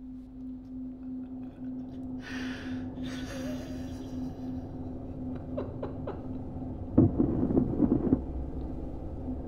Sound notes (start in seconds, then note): 2.9 Ian sobs; 6.9 thunder rumbles